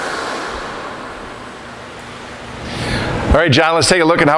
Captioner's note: machine noise; machine noise fades